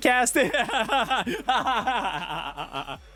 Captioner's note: laughs